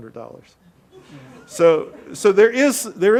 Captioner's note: audience laughing